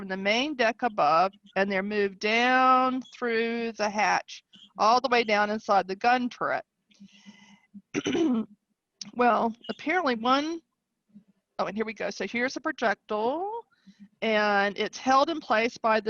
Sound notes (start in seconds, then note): 7.9 clears voice